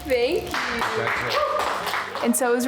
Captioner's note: applauding and cheering